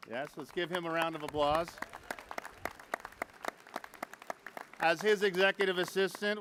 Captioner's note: applause